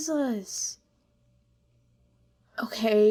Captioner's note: more silence